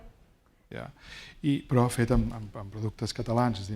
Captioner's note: speaking spanish